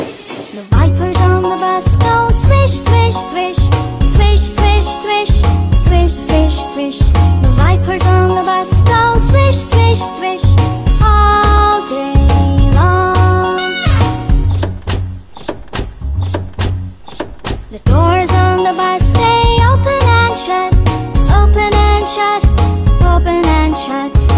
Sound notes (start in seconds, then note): 13.9 doors opening and closing